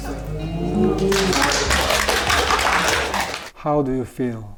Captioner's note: everyone applauding